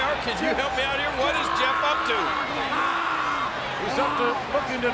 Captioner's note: Matt groaning